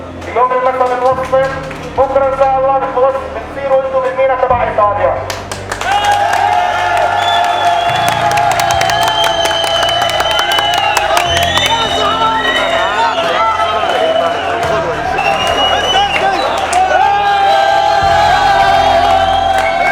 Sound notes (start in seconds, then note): 5.6 people cheer; 5.6 people clap; 12.2 men speak in foreign language; 17.0 people cheer